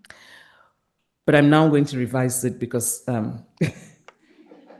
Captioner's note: laughs